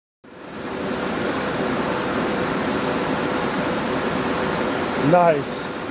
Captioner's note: engine idling